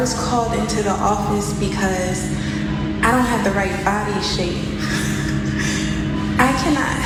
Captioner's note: laugh